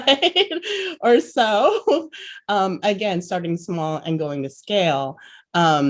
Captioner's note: laughs